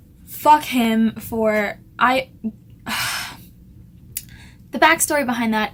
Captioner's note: sighs heavily